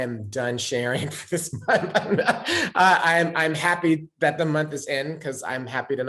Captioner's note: risas